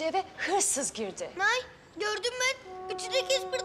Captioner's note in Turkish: Almanca konuşma